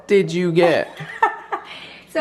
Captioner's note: chuckling